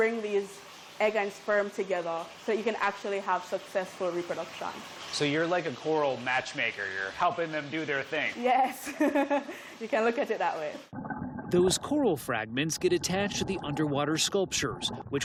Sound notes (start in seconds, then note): 8.7 laughter